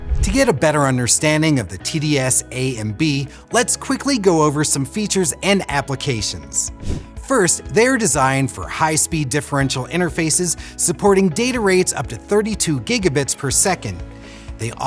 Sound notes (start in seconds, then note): 6.7 air whooshes